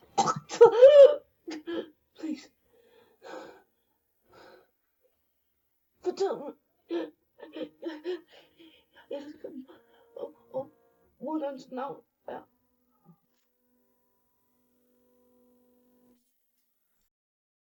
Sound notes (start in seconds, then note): 2.6 heavy breathing